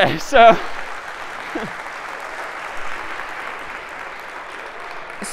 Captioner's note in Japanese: 拍手